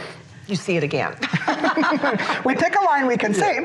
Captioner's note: laughs